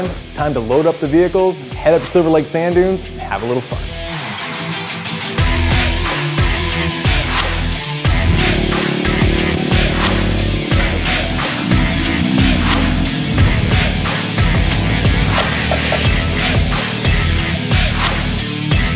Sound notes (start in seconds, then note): 4.4 upbeat Rock Music; 8.3 engine Revving